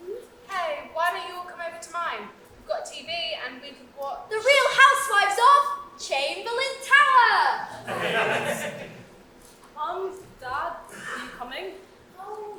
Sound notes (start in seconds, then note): 7.7 audience laughs